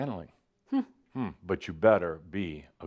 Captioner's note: none